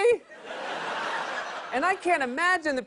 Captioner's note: laughter